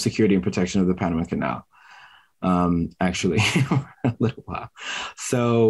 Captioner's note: chuckles